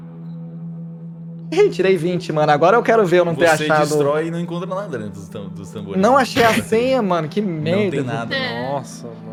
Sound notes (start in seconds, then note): 6.1 laughs